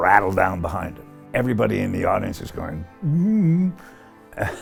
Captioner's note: chuckling